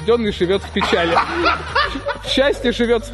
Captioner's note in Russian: смеются